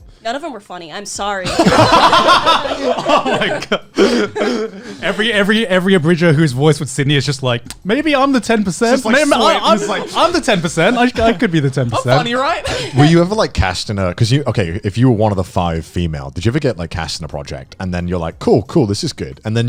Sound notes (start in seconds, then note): 1.5 laughing